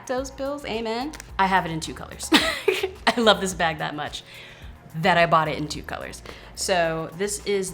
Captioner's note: laughs